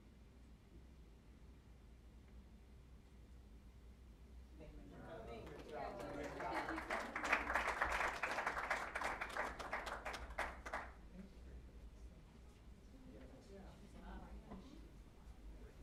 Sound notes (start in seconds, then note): 5.3 applause